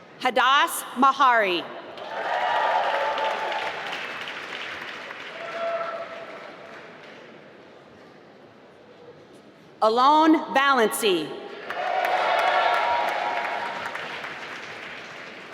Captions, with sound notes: Hadas Mahari (applause) Alon Valency (applause)